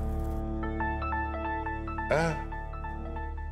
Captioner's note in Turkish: Telefon Çalıyor